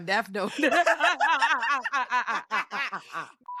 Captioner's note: laughs